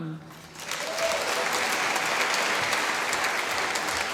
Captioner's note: applause